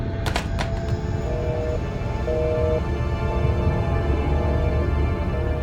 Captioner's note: dramatic orchestral music; dial tone humming